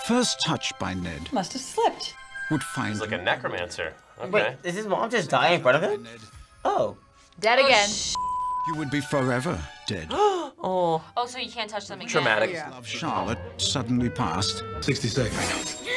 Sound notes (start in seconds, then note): 10.1 gasps; 15.7 Charlotte gasps